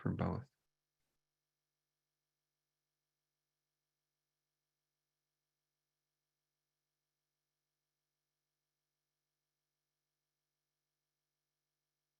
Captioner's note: silence